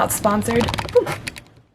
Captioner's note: tripod noises